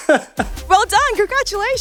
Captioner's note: chuckling